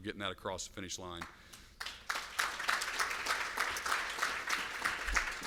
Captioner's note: applause